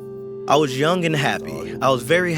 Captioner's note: through translator